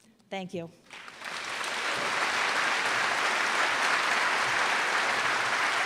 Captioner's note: applause